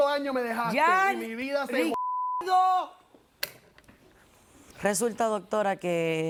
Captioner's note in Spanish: Bip